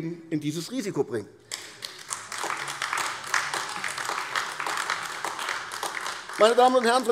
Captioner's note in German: Beifall AfD